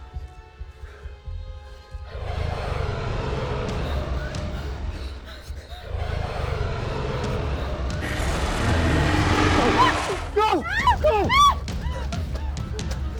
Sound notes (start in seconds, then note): 2.7 dragon growls